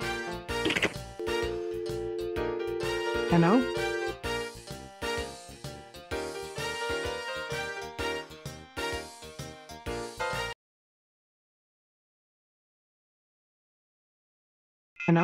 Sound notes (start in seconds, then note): 1.2 phone click and dial tone